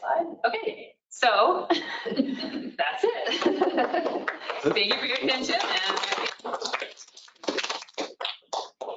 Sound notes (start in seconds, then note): 3.2 laughter; 6.7 applause